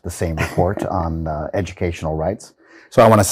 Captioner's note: laughing